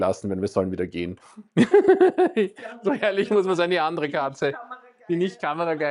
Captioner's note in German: gelächter